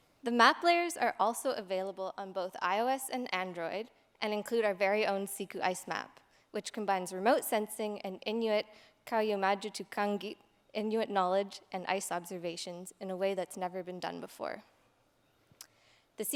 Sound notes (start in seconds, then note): 9.2 non-english speech